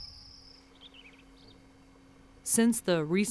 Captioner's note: birds chirping